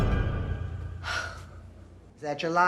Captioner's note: exhales sharply